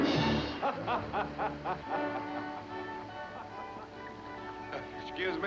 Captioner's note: laughing